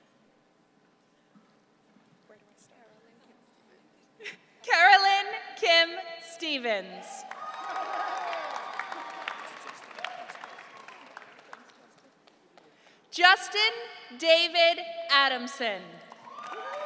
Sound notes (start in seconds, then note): 7.0 audience cheering